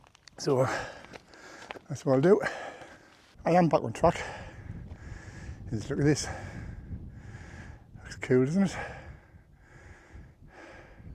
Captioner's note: sighs